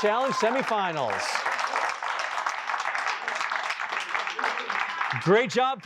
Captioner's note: applause